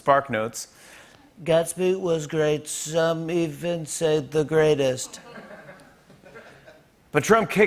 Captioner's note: As Trump; normal voice